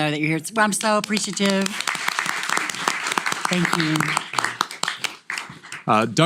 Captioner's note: applause